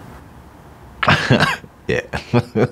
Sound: laughs

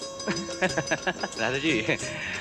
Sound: laughs

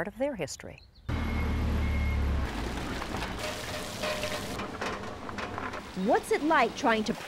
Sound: rumble of machinery, potatoes hitting water

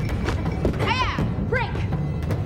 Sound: Taylor shouting

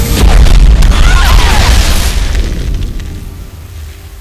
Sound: explosion booming

